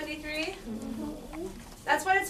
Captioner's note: class mumbles